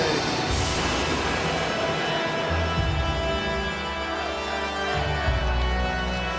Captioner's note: ominous music continues; crowd chanting